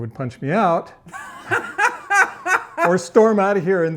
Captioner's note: laughing